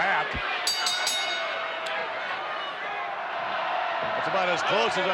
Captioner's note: bell rings